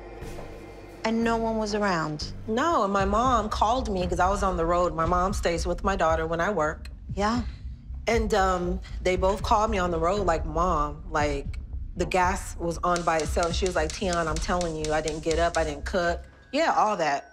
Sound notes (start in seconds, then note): 12.9 stove clicking